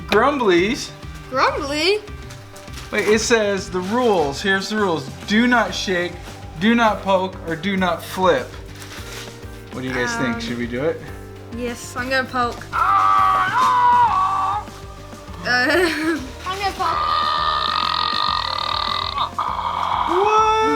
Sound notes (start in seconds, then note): 12.7 toy groans; 16.9 toy belches